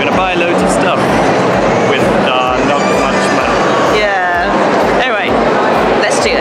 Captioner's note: sarcasm